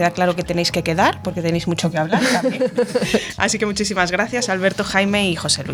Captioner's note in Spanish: risas